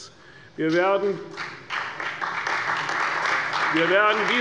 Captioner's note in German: Beifall bei der CDU und dem BÜNDNIS 90/DIE GRÜNEN